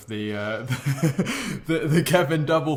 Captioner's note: laughing